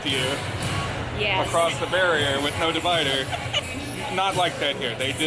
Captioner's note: laughs